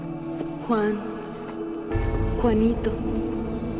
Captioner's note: echoing